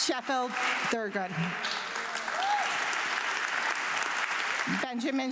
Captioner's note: audience clapping